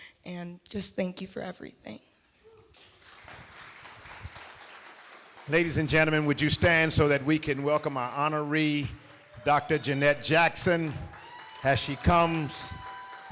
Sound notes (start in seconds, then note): 2.5 applause